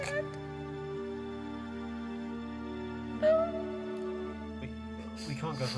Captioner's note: Jay sobbing and murmuring in disbelief * Dad... no!